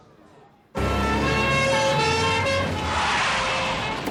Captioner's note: siren blaring